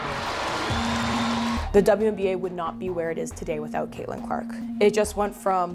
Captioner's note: cheers and Applause